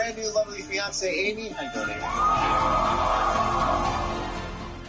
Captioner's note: cheers and applause